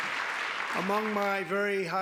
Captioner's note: applause